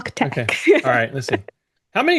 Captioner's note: laughing